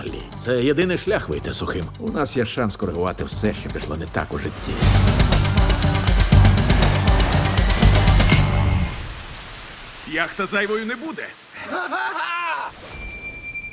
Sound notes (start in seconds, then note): 4.1 dramatic music playing; 7.7 music stops; 11.6 cackles